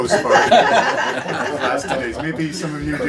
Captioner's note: everyone laughs